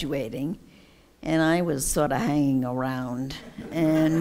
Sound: laughter

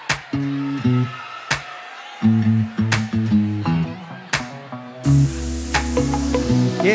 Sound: audience acclaiming

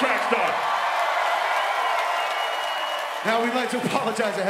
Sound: audience applauds

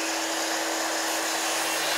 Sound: machine noise

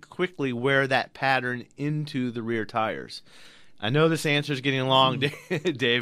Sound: laughs

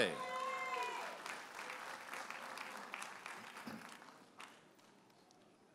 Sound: audience applauding and cheering

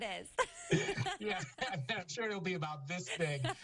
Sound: laughter

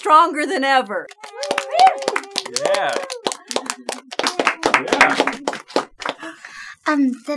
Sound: cheering

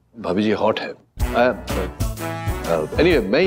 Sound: stammering

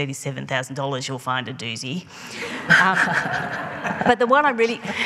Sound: laughing

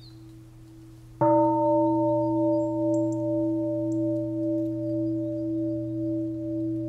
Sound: bell

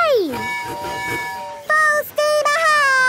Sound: tooting

